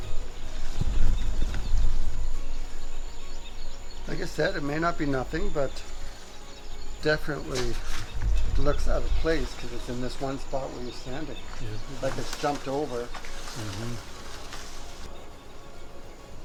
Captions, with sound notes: [bird noise] Like I said, it may not be nothing, but definitely it looks out of place because it's in this one spot where you sand it. - Yeah. - Like it's jumped over. - Hmm-mm.